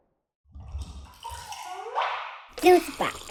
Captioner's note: funny sound effect; liquid trickling